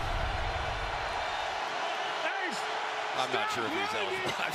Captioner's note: crowd cheering